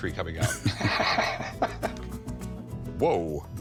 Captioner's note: laughs